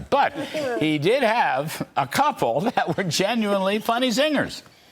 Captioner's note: laughter